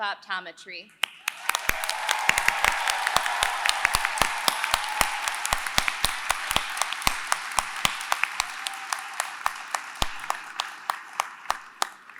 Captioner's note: applause